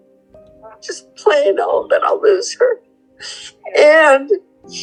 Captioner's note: crying